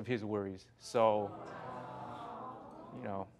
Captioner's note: audience sighs